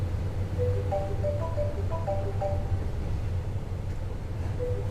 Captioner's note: cell phone chimes